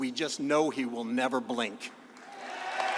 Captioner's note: applause